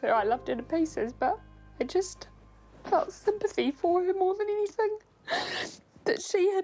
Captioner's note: sobs